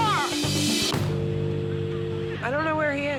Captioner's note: dial tone buzzing